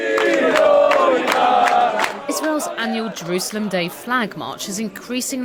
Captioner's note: clapping